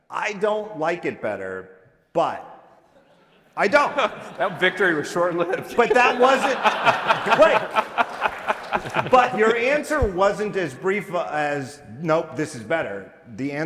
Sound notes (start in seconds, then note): 8.0 audience laughing